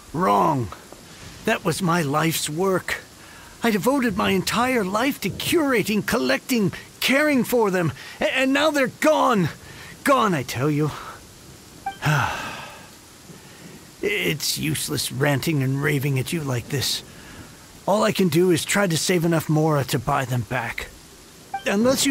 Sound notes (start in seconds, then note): 12.0 sigh